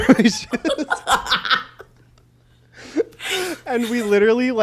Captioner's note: both laugh